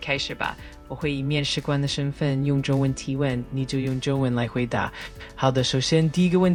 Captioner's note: interviewer speaking Mandarin